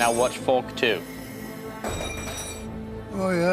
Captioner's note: clanks